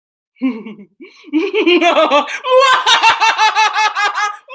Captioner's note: Tyra cackling